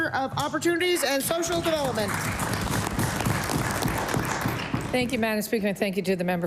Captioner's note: some Applause